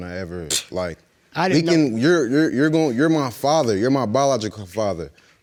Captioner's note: stammers